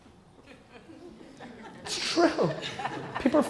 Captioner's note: audience laughter